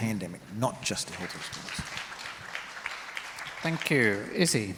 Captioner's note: crowd applauds